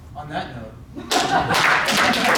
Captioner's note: audience laughs; audience applauding